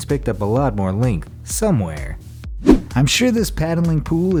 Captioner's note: air whooshes